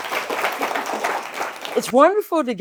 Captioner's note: applause